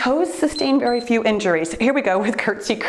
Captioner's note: timer beeps